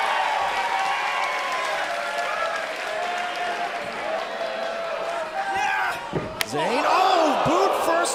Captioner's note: crowd cheering